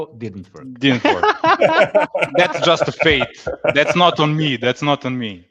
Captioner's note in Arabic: ضحك